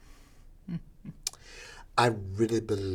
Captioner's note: chuckling